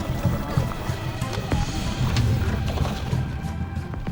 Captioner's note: dramatic music; boat engine revving; dramatic music